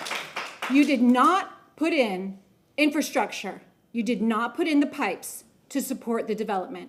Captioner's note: applause